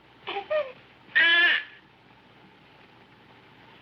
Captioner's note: child cooing